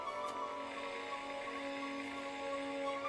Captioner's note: static